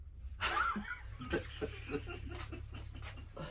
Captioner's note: laugher